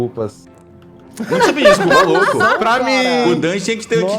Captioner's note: laughter